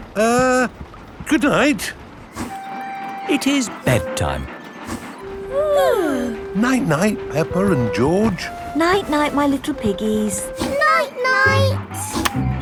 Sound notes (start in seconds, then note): 5.4 both yawning